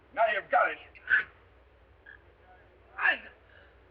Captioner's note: Ted gagging; gasps